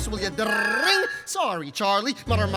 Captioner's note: imitating phone ringing